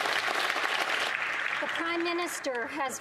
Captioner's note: applause